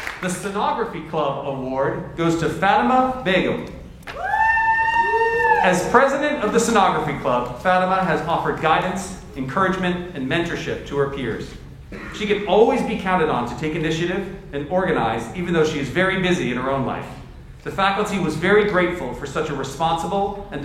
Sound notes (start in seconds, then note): 4.0 audience members cheer